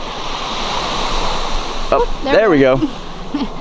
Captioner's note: waves washing ashore